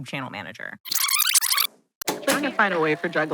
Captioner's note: graphic screeching